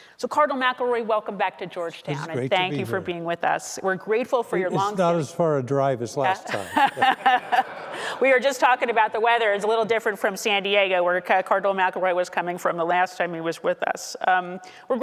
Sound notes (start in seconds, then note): 6.4 audience laughing